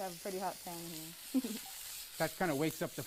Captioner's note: chuckles